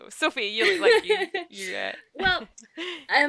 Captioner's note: laughs